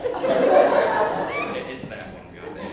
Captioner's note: laughter with a squeak